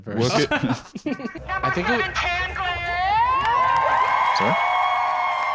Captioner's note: laughs; crowd cheering